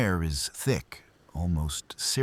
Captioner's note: wind Blowing